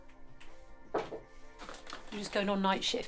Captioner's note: knocking